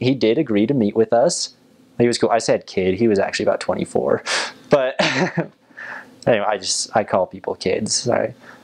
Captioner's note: laugh